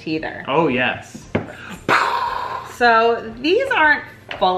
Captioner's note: mimics explosion